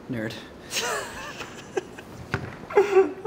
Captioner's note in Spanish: Riendo/Llorando